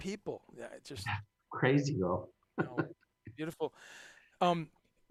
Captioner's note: laughs